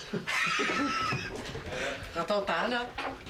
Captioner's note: rires